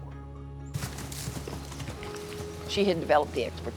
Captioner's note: galloping